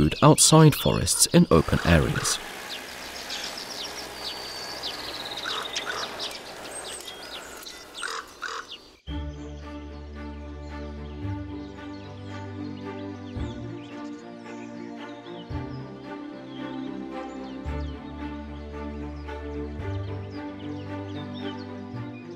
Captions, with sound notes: outside of forests, in open areas. [sounds of nature] [music, sounds of nature]